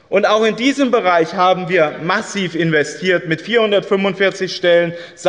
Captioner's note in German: none